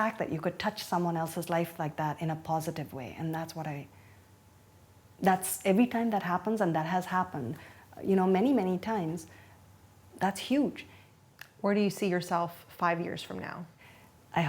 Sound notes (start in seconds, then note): none